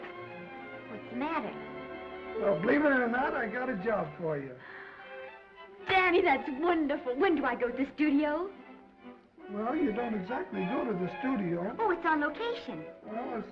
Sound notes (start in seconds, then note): 4.6 Esther gasps